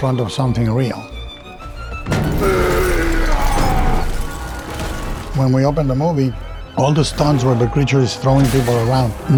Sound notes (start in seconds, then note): 1.9 dramatic music; 2.4 monster groaning